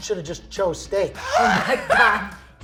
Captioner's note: laughing